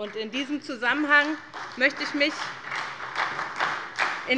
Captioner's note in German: Beifall bei der SPD